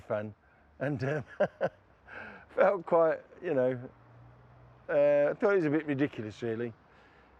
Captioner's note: laughs